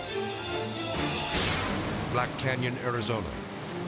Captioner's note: thrilling music; graphic swishes